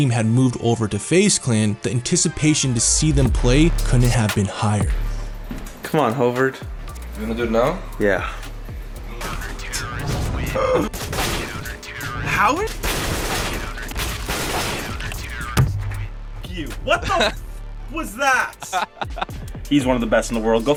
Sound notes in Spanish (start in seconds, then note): 9.2 Disparos